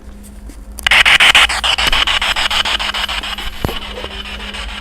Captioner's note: static buzzing